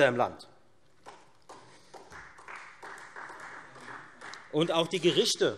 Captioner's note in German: Beifall Freie Demokraten